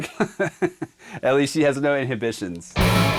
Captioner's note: laughs